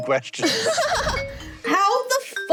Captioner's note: laughs